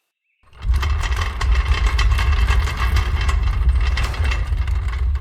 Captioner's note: drawer rolling